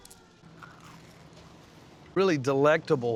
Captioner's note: crunching sound